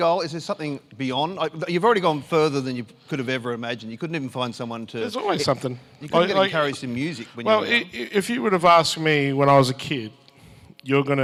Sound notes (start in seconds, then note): none